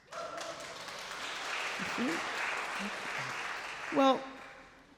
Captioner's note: crowd clapping